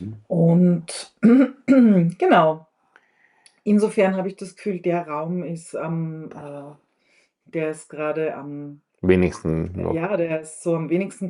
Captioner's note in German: räuspern